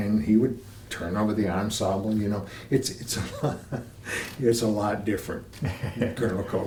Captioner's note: laughter